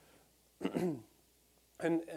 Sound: clearing throat

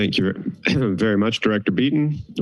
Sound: clears throat

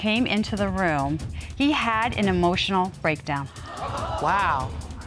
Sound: audience gasps

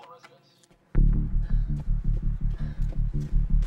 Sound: panting

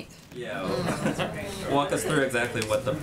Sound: laughter

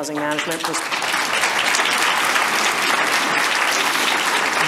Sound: audience applause

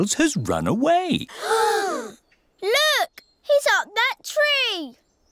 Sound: all gasp

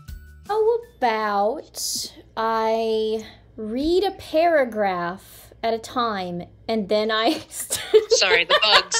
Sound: giggles; laughter

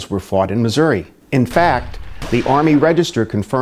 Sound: canons firing

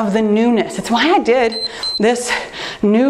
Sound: timer beeps

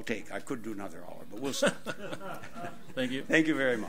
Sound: audience laughs

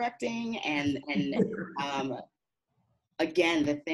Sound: laughing

